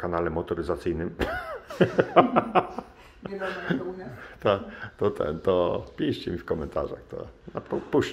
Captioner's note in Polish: śmiech